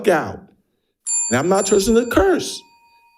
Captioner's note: bell dings